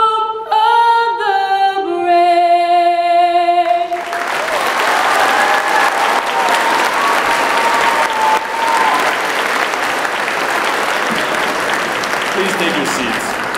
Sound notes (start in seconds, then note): 3.7 applause